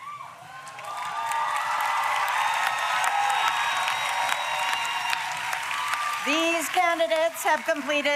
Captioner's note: applause